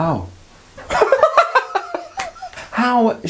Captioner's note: laughs